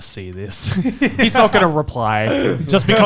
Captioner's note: laughs